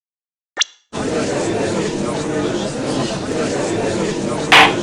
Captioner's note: gallery chattering; gavel slams!